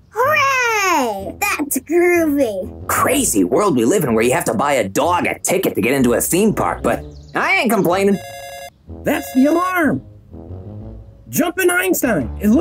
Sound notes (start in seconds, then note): 8.0 alarm rings